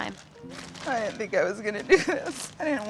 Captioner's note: crying